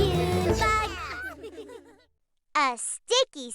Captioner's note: all laugh